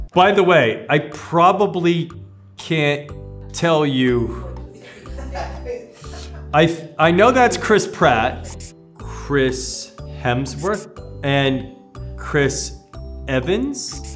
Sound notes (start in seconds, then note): 4.7 staff laughs